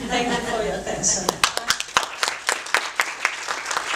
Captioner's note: applause